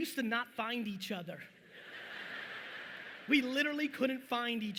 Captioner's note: audience laughing